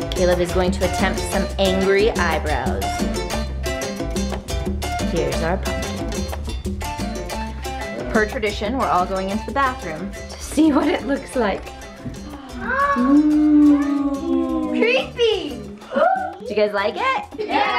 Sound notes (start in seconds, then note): 11.8 gasping